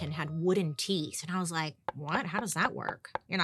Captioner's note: wooden teeth clanging